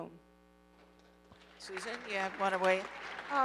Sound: audience applauding

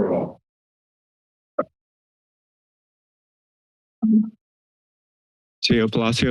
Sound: silence

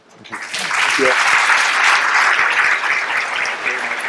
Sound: applause

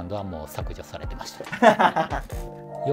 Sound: laughing

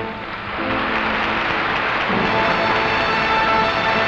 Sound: audience applauding

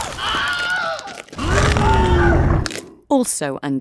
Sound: men screaming

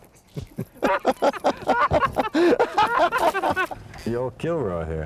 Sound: tons of Laughter

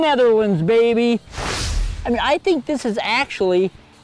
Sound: whooshing

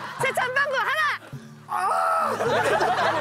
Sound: yelling

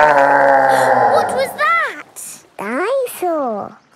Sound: gasps; growling; laughing

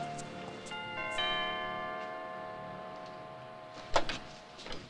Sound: doorbell rings

